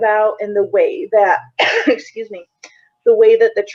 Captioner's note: coughing